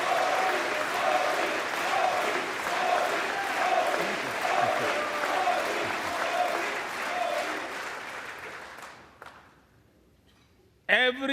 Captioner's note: applause